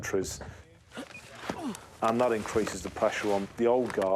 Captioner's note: grunts